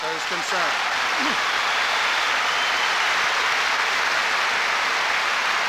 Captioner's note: vigorous applause and cheers